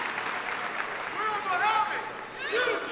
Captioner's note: audience member shouting